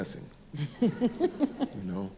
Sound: laughs

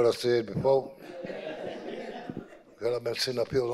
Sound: audience laughing

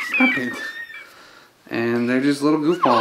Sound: squeals

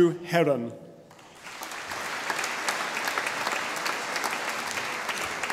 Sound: audience applauding

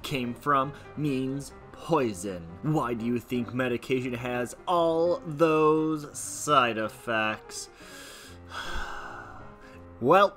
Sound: sigh

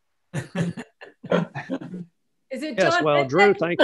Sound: laughing

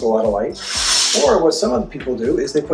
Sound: curtains drawing

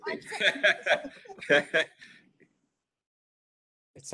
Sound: chuckles

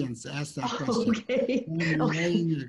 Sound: laughs

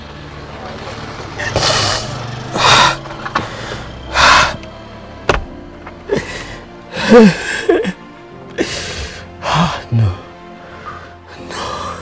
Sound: sobbing

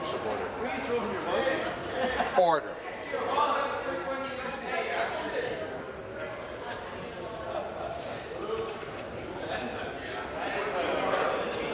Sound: conversation din

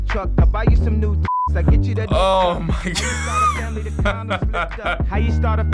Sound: laughs

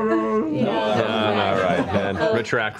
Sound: mediocre wookiee growl

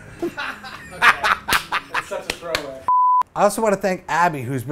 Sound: laughs

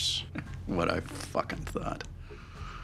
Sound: chuckles

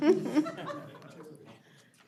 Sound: laughter

